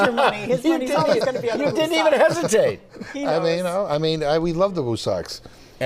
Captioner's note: laughter